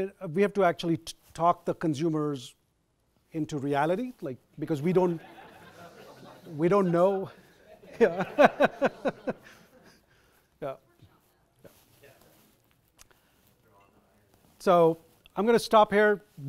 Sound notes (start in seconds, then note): 5.0 audience laughs